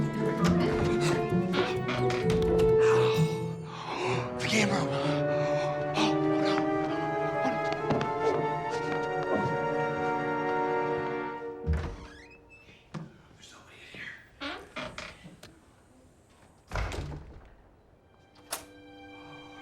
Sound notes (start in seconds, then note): 2.4 gasping; 13.0 whispering; 18.4 lock clicks